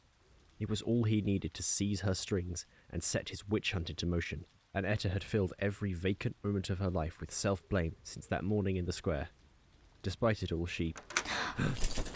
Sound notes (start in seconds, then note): 10.9 key turns; 11.2 etta and narrator gasp